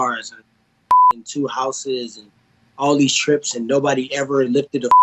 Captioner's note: beep; beep